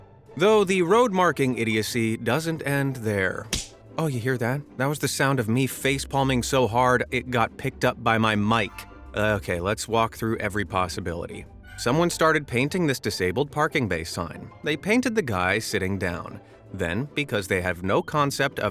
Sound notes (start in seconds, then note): 3.4 slap